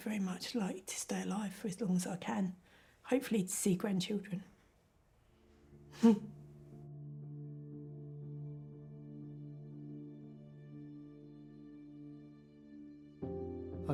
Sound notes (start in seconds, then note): 5.9 chuckles; 7.6 somber music